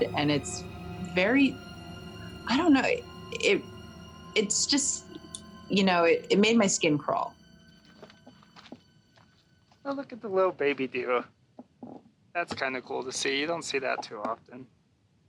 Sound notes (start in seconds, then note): 7.8 feet rustling